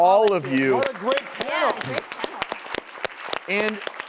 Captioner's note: audience applauding